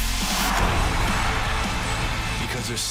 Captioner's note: cheers & applause